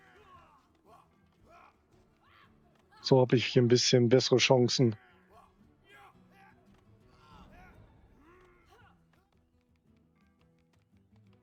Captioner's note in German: schreien